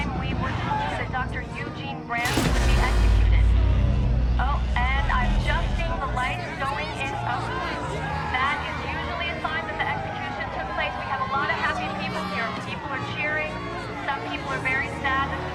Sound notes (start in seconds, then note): none